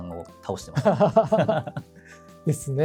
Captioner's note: laughs